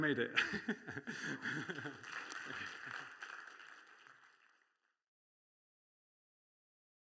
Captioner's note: laughs